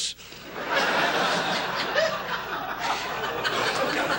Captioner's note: audience laughs